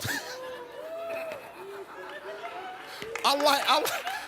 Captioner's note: Steve laughs